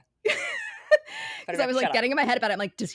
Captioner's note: laughing